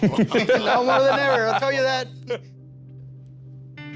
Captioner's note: laughing